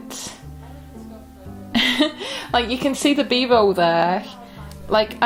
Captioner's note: laughs